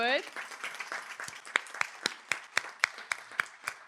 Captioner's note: applause